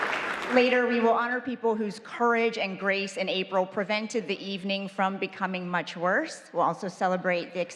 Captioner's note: applause